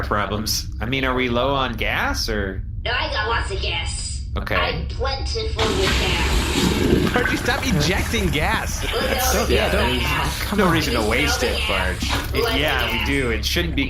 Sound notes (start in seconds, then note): 5.6 Bargie ejects a lil gas